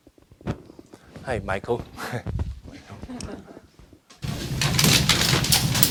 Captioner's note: laughing; audience laughing